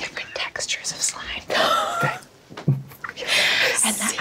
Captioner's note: everyone laughs